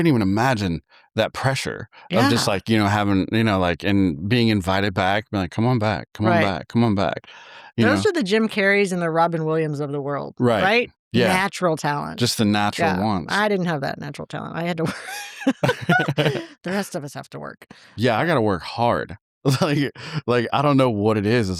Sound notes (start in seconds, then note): 14.8 both laughing